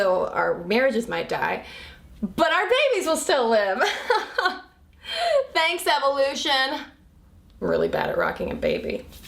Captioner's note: forced laughter